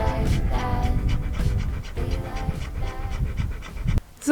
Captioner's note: Caesar is panting